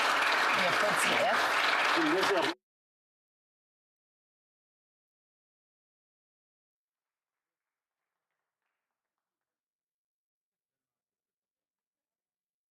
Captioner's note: some Applause